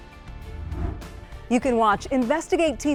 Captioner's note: pensive music; air whooshing